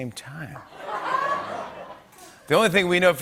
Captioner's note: laughter